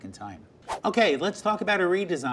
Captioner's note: whooshing